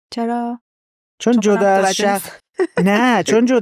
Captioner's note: laughs